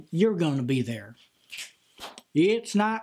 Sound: snaps and claps

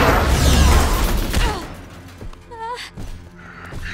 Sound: groaning

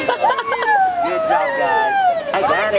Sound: everyone laughs and cheers

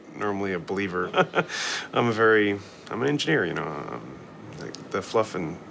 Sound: lAUGHS

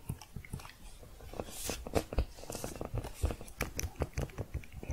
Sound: shuffling, then pressing several keys

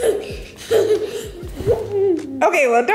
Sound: laughing

